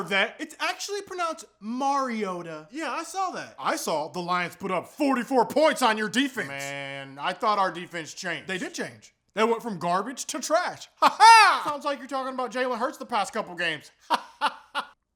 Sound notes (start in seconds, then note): 11.0 weird laughter; 14.0 laughter